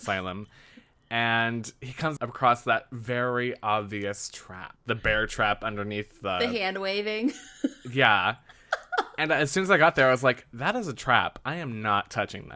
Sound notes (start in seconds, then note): 8.5 laughs